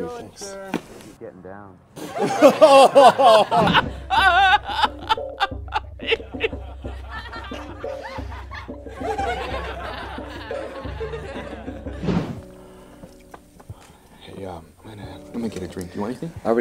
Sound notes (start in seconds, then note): 2.0 laughter; 8.3 more laughter